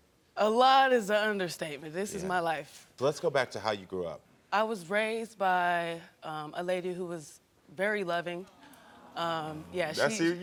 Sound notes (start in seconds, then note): 8.4 audience coos